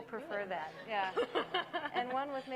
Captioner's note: laughing